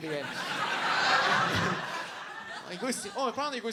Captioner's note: audience laughs